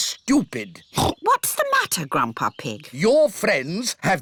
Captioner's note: oinks